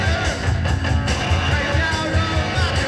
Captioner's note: cheering